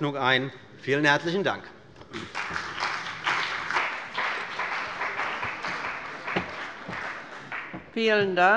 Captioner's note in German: Beifall bei dem BÜNDNIS 90/DIE GRÜNEN und der CDU